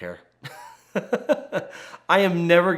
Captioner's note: laughs